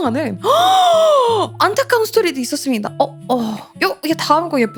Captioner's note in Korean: 헉 소리